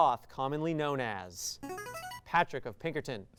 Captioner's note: signaling device tone